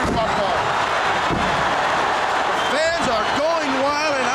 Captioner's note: audience cheering